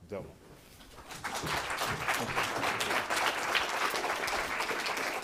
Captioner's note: audience applauding